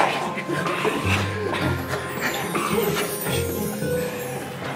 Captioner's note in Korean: 모두의 즐거운 웃음